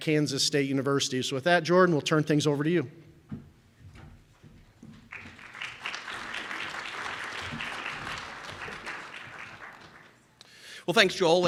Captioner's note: round of applause from audience